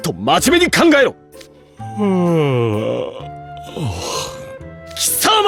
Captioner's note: yawns